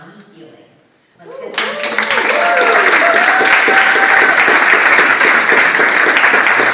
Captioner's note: audience applauds